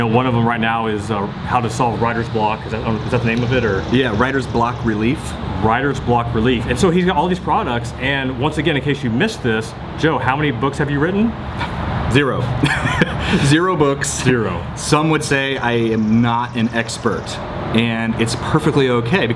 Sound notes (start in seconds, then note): 12.5 laughing